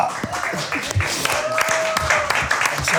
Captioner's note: applause